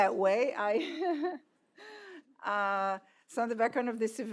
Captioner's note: laugh